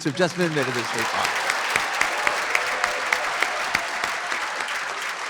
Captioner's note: applause